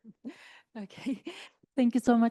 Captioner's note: chuckles